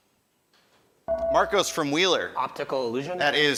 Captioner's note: ding